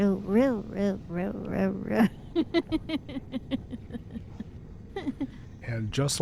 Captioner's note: laughing